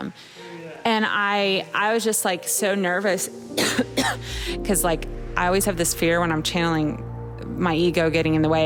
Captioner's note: coughs